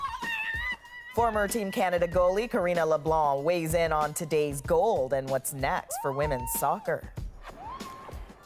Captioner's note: screaming